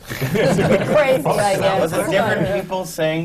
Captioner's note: laughter